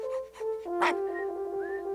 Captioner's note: barking